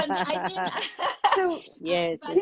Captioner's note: everyone laughing; laughing